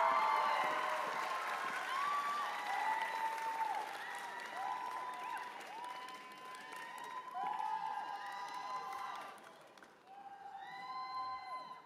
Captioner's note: cheers and applause